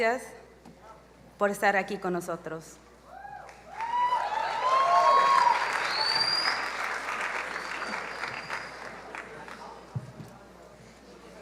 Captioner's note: applause